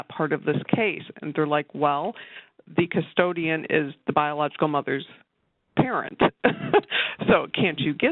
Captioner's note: laughs